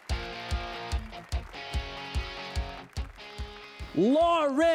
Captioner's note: applause and cheers